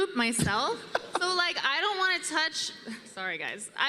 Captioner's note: laughs